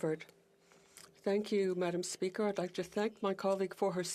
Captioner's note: speaking French